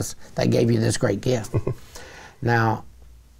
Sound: chuckles

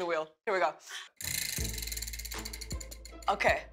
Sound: wheel clicks

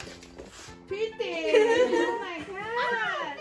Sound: whew

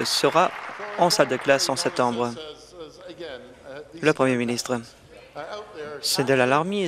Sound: applause

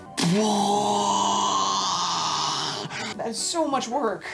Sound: man moans

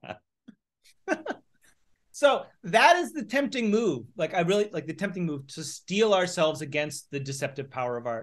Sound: laughter

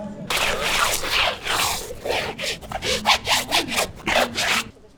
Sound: rustling soles

